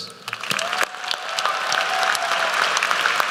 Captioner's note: applause